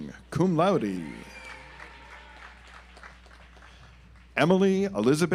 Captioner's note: audience applauds